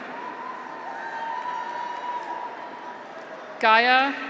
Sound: audience applauds; graduates cheer

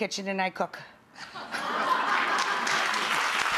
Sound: audience laughing; audience clapping

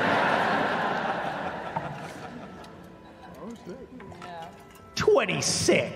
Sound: laughter

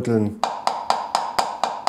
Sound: tapping

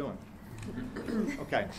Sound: laughing

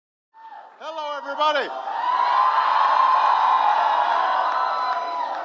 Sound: applause

